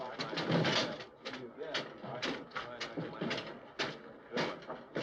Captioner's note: crowd noises